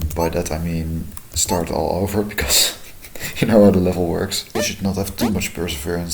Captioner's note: chuckling